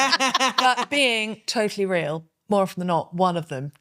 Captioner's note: laughing